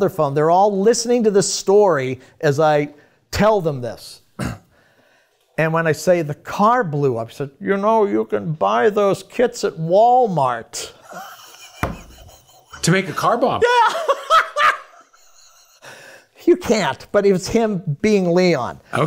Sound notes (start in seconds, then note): 11.0 laughs; 15.0 laughs